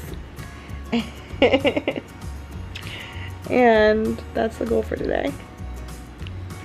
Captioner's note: giggles